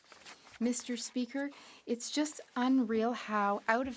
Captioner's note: speaking French